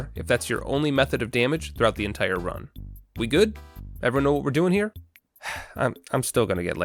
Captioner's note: sigh